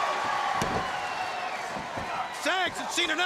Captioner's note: crowd cheering